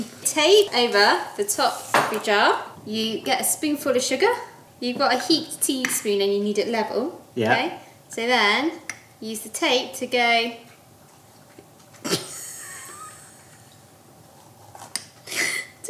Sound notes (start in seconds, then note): 12.1 laughs